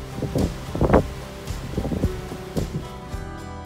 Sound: wind howling

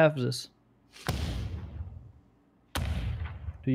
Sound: booming sounds

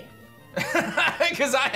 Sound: laughs

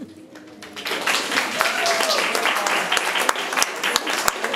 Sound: room applauds

